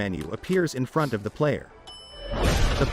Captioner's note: elevator door chimes